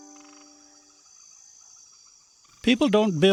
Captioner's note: insects chirping